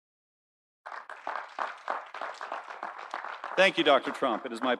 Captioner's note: audience applauding